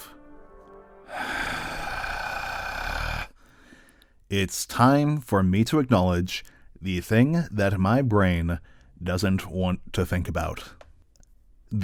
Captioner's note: sigh